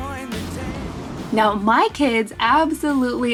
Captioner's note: air whooshes